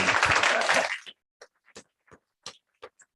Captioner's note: applause